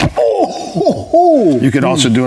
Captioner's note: groans